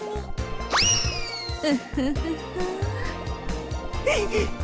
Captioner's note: dangerous giggle